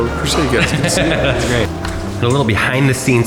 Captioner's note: laughing